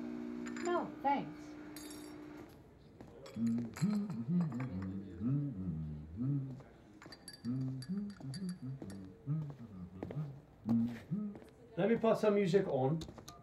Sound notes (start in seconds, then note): 1.6 coffee machine and spoon; 3.3 humming while stirring his coffee; 8.6 shoes on floor approaching